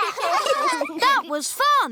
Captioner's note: laughter